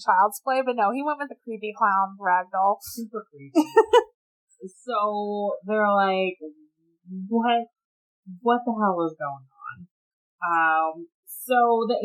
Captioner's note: laughs